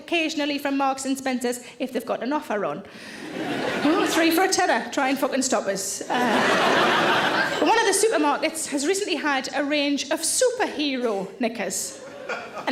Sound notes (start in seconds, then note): 6.1 audience laughing